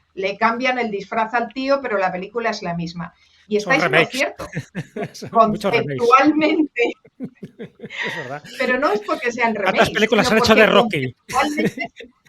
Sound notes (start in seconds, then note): 7.0 laughs